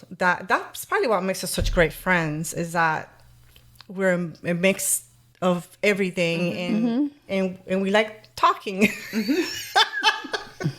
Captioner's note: laughter